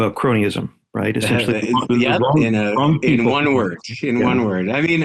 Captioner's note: chuckles